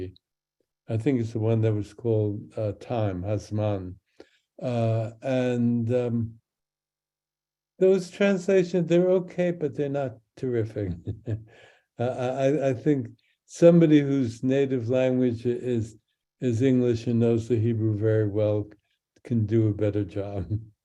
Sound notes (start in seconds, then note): 2.9 speaks in Hebrew